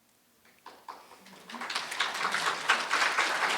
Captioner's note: audience applauds